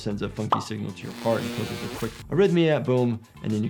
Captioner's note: electricity buzzing